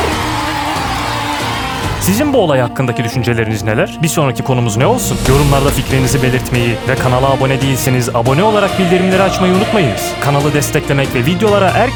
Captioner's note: applause effect